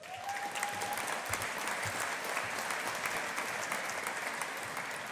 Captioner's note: audience applauding